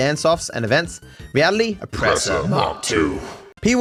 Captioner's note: evil/Demonic voice